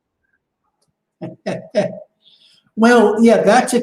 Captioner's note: laughs